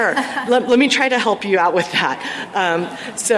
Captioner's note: laughter